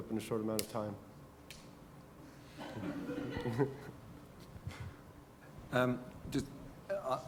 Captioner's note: laugh